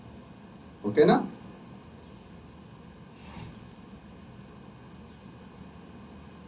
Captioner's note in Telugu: గురకలు